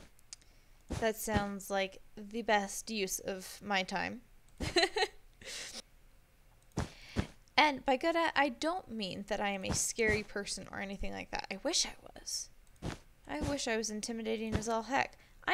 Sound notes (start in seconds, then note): 4.6 laughs